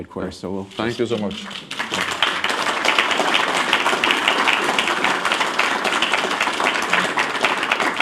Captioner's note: applause